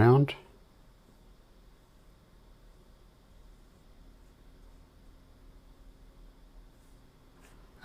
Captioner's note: silence